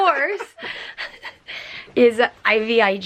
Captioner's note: both chuckling